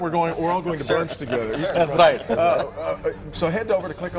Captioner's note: laughter